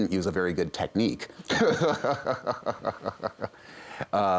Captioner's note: chuckles